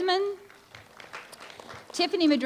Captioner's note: applause